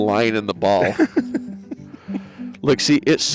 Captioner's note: laughing